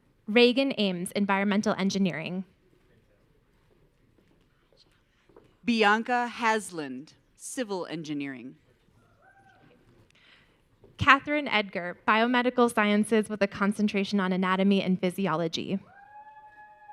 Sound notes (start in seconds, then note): 9.3 audience cheering